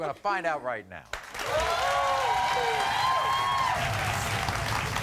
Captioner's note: applauding